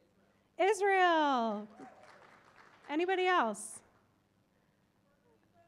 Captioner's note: applause